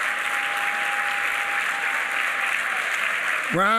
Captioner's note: applause